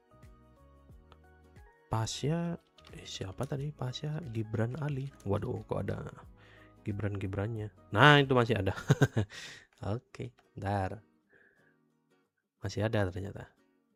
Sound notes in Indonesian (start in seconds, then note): 10.0 tertawa